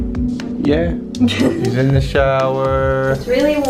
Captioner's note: laughs